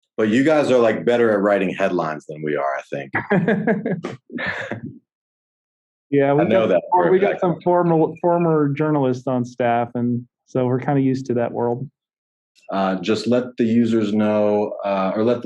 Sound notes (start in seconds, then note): 4.9 laughing